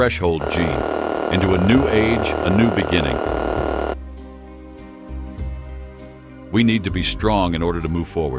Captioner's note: door buzzes open